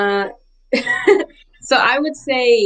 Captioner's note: laughs